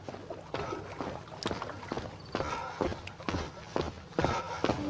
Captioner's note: shoes lightly thumping